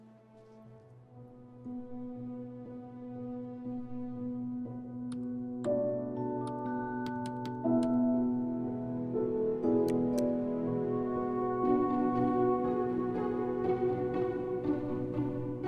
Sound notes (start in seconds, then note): 4.0 typing